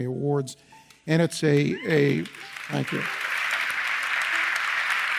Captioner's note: audience applauds